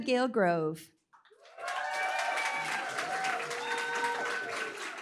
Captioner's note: applause, cheering